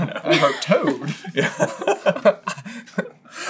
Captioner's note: laughter